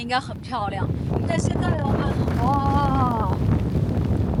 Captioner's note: strong wind blows